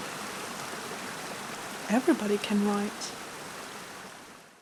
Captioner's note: rushing water